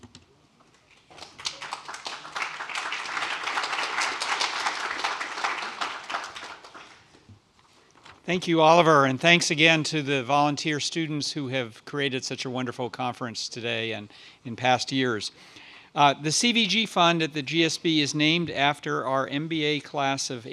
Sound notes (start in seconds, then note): 1.0 applause